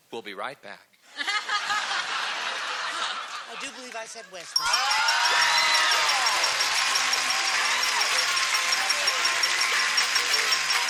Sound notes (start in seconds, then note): 1.0 laughter; 4.5 cheering; 7.5 ding